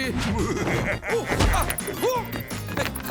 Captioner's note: evil laughter